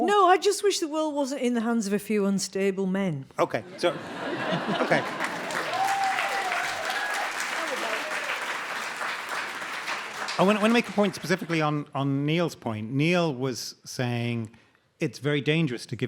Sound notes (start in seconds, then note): 3.7 audience laughing; 6.0 audience cheering